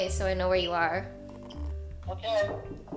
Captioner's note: knock knock